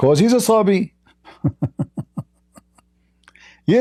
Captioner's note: Ketawa